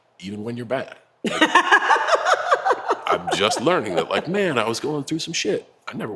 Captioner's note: laugh